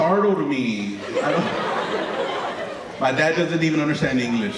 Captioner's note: audience laughing